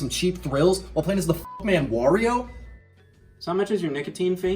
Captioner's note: beep